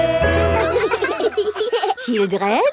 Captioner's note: children laughing